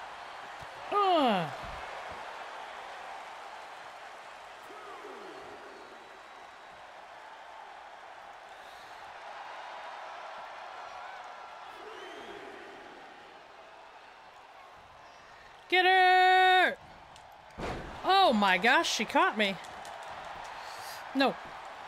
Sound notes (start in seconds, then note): 2.1 applause